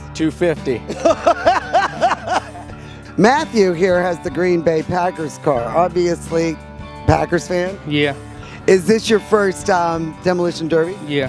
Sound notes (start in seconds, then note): 0.8 laughing